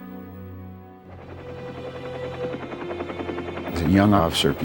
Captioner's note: propeller beating